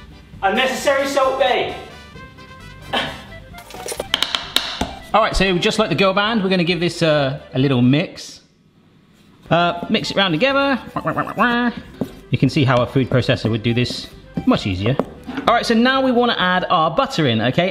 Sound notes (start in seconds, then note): 2.0 upbeat polka music; 10.9 quacks